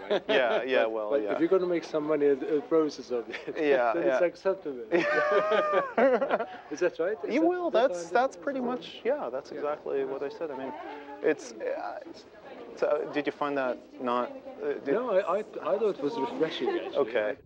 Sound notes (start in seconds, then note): 0.0 laughs; 4.9 laughter